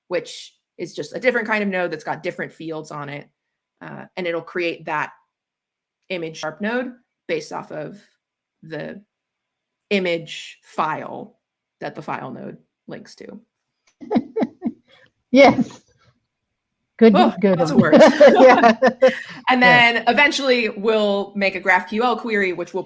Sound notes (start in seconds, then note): 14.5 chuckles; 17.2 both laughing